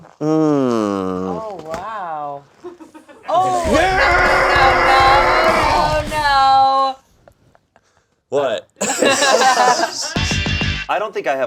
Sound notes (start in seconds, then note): 3.8 yelling; 8.8 all laughing; 10.2 upbeat music